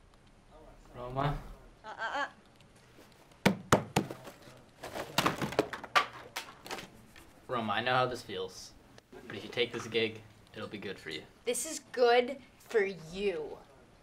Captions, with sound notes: Roma? Ah, ah, ah! (Pat pat pat) (Slam, crashing) Roma, I know how this feels. But if you take this gig, it'll be good for you. This is good for you!